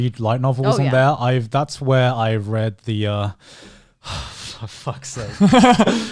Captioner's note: exhales; laughing